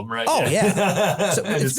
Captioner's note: laugh